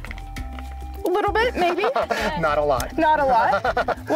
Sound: laughing

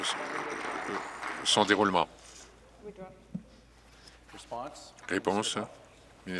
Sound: applause

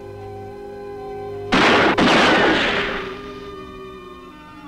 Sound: gun firing

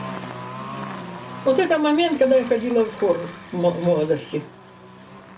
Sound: speaking Russian

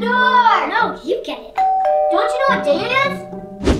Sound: bell dings

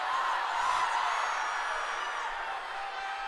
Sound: screaming

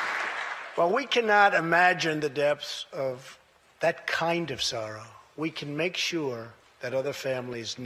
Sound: applause

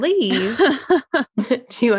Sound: laughs

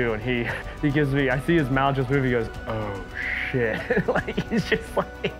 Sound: laughs

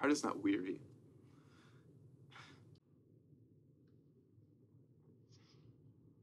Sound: sighs

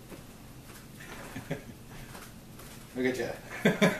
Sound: laughs

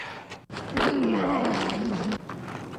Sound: grunting

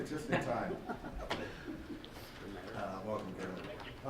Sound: laughter

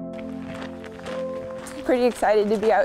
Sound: footsteps crunching

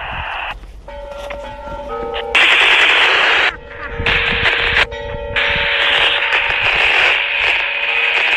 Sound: the church bell rings

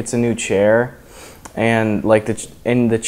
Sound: breath in

